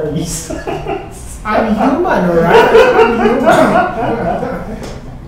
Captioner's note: laughs; laughing